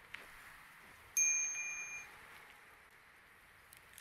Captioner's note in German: Fahrradklingel